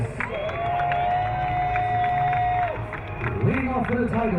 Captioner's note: crowd cheering